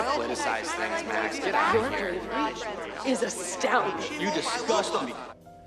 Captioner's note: users clamor